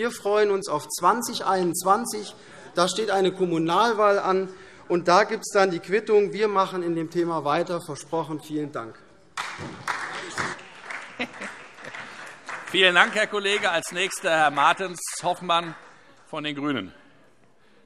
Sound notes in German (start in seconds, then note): 9.3 Beifall SPD